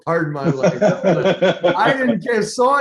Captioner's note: laughing